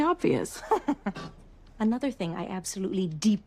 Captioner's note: Rosemary chuckles